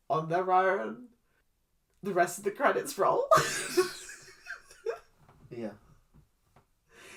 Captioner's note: laughs